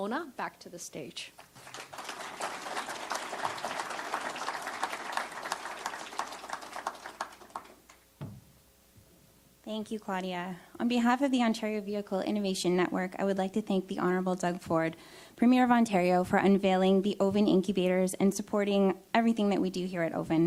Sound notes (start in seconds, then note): 2.9 applause